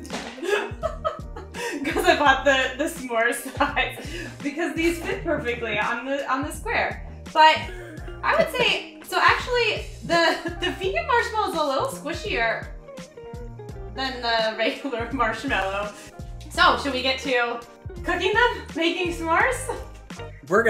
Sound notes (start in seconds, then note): 0.1 laughs; 7.6 laughs